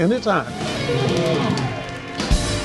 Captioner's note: cheers and applause